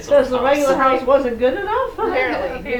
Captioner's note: laughter